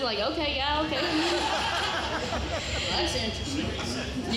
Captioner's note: audience laughing